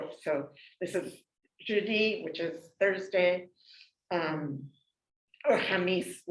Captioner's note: non-english speech